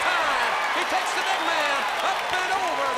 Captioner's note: crowd cheering